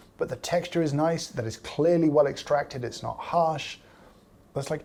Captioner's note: none